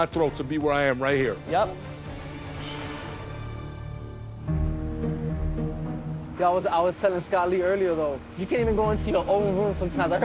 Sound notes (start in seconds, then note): 2.5 sighs